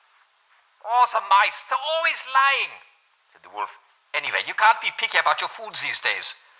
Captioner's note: German voice